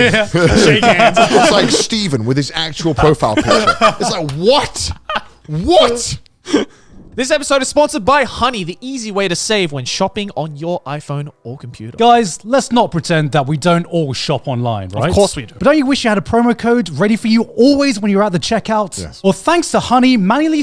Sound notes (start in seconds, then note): 0.0 everyone laughing; 3.0 laughing